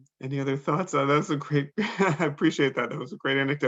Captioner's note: laughs